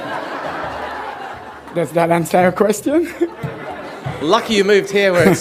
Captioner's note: laughter